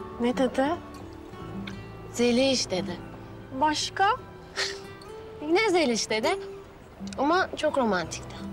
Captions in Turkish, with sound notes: Ne dedi? “Zeliş.” dedi. Başka? [Gülüyor] Yine “Zeliş.” dedi. Ama çok romantikti.